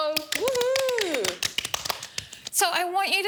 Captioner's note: clapping; cheering